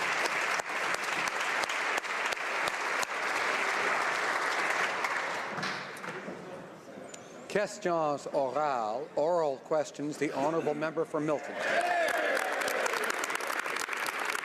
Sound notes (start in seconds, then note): 2.5 applause; 11.8 speaking French